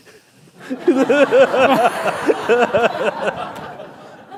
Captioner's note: laughter